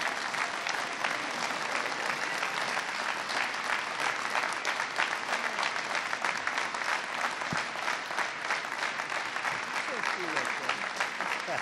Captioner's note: applause